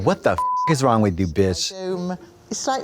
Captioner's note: beep